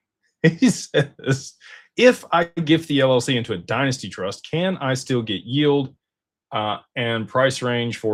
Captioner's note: laughter